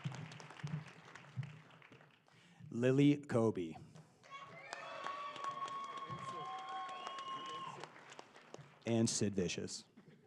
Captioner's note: applause